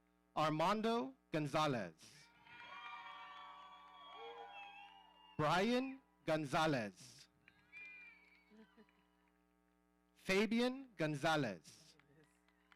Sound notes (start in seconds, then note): 2.4 audience cheering